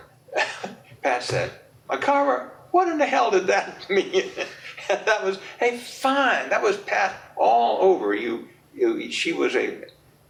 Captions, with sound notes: [chuckles] Pat said, “McArver, what in the hell did that mean?” [laughs] And that was a fine...that was Pat all over you. She was a